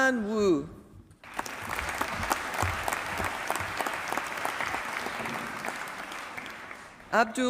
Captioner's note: applause